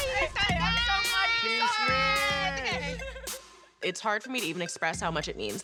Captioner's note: overlapping chatter and laughter